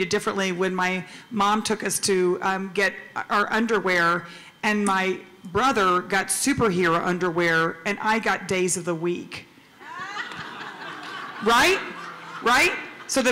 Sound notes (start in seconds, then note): 9.8 laughter